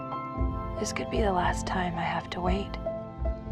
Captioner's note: voiceover